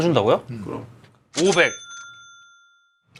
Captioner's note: the first silence in two hours